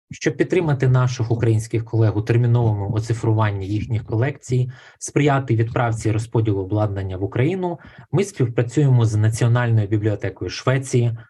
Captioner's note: foreign Language Spoken